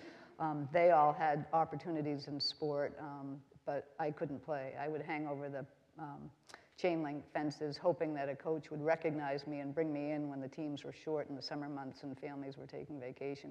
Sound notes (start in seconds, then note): none